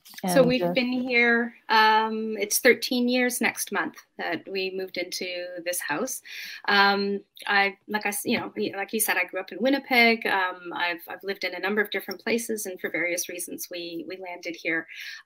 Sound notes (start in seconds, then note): none